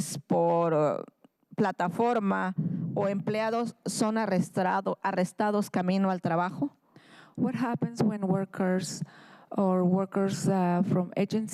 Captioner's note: speaking in spanish